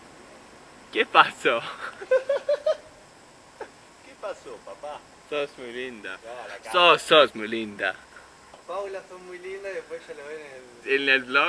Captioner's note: Spanish